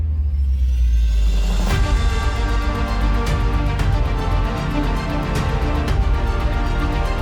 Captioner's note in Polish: Aplauz